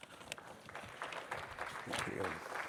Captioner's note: audience applauding